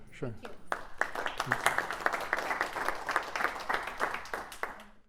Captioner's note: applause